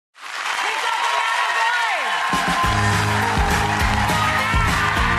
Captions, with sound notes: (audience cheers and applause) Please welcome Matt McGorry. (upbeat music)